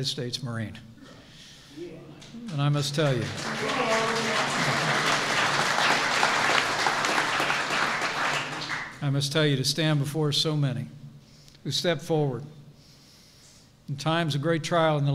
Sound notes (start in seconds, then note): 2.6 applause